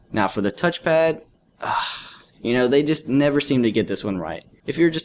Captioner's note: sigh